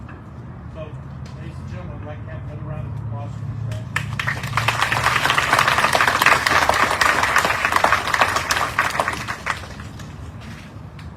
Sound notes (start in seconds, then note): 3.9 audience cheering, applauding